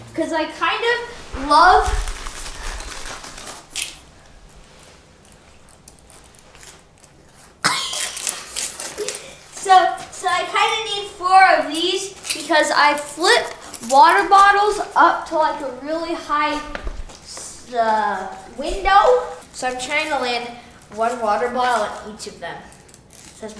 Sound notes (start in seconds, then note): 3.9 crackers crunching; 8.9 giggling